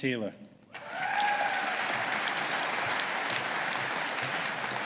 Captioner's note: audience applauding